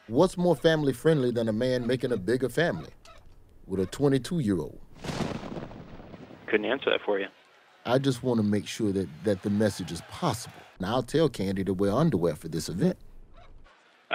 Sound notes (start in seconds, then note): 5.0 thunder crashing